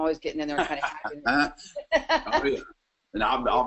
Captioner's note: laughs